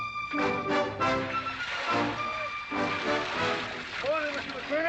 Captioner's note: liquid pouring